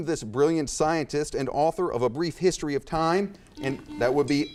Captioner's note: buzzer chimes